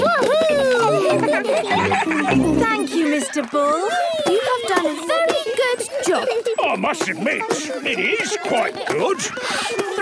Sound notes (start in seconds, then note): 0.1 giggling